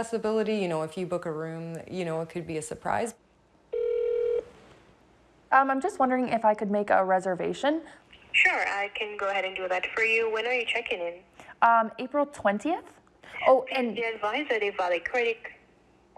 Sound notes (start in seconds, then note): 3.7 phone rings; 13.1 murmurs